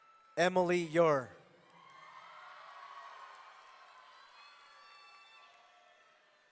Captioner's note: audience cheering